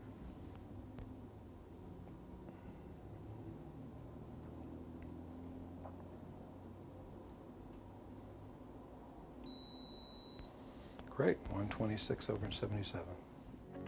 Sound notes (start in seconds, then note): 9.4 beeping; 13.7 upbeat music